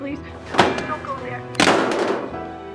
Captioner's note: phone slams